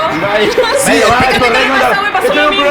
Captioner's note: laugh